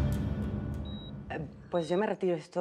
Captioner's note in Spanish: Sonido del monitor